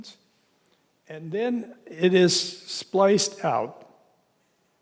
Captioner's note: none